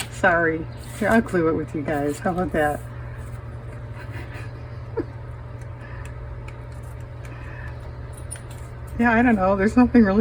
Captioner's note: laughs